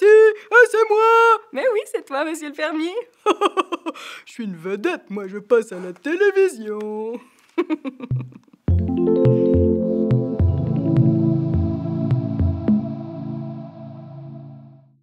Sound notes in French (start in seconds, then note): 3.2 rires; 7.5 rires; 8.6 indicatif musical